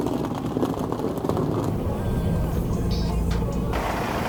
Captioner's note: engine rumbling